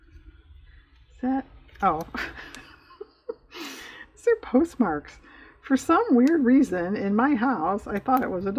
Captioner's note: laughs